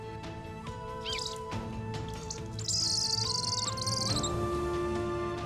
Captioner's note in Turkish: Atmaca sesi